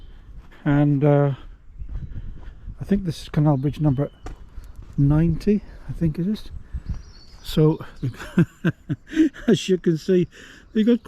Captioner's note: laughs